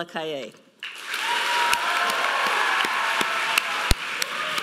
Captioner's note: audience applauding